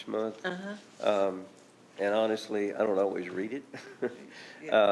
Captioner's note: chuckles